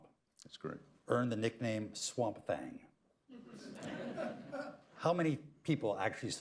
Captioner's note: laughter